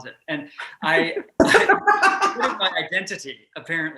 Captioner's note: laughing